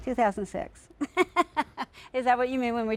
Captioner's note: laughs